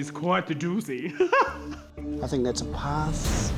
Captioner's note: laughs